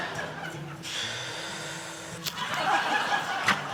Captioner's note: laughs; exhales